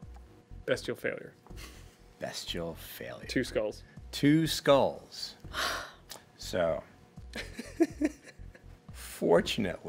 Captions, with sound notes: - Bestial failure. - Bestial failure. - Two skulls. - Two skulls. - So, (chuckling)